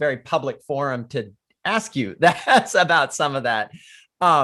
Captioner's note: laughs